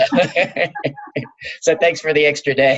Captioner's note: laughing